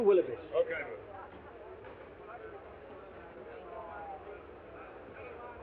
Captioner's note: all chattering